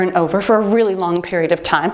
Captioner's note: timer beeps